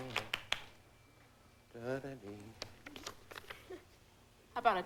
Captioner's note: humming